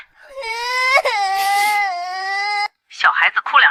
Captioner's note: crying sounds